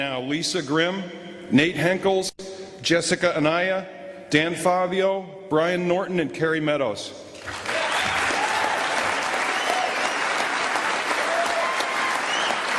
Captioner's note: applause